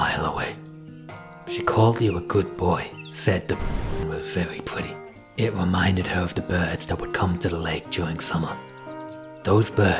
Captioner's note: static